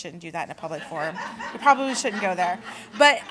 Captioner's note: laughter